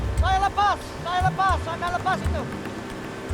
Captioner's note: speaking Indonesian